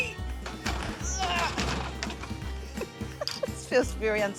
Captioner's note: grunts; giggles